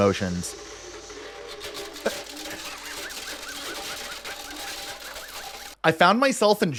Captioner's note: nervous Laughter